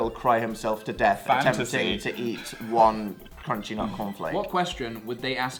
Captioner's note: giggles